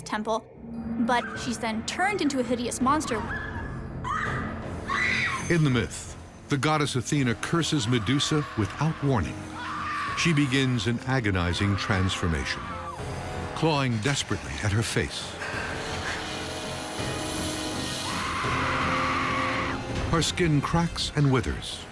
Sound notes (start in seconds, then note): 4.8 Medusa screaming; 15.1 hissing; 17.9 Medusa screaming